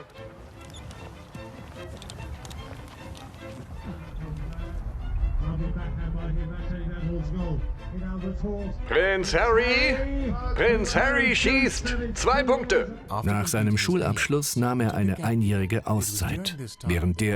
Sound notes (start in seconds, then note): 0.1 whimsical music; 5.4 sports announcer speaking softly; 9.3 voiceover; 12.4 voiceover